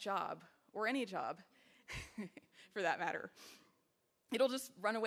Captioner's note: chuckles